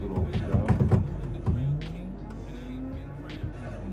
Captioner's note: stompstomp